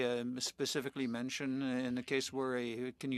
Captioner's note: speaking French